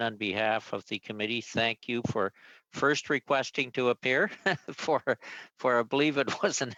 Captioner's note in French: voix de l'interprète